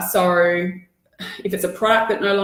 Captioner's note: sighs